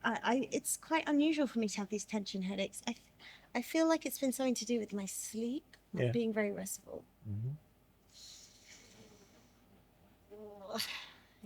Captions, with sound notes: It's quite unusual for me to have these tension headaches. I feel like it's been something to do with my sleep or being very restful. (breathing deeply)